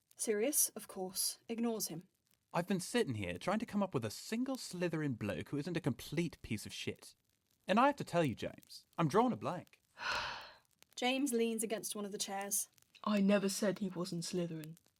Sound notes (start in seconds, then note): 10.0 James sighs